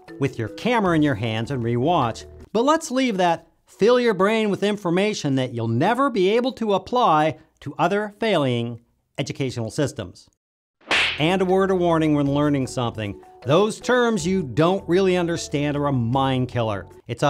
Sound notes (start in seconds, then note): 10.8 boxer punch